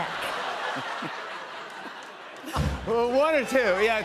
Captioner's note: laughter